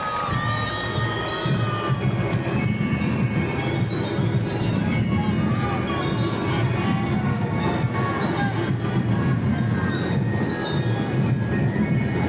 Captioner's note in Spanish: campana